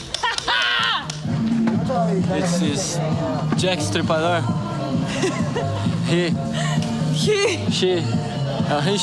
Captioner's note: laughing; speaking In Foreign Language